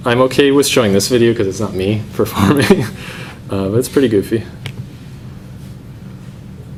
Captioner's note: laughs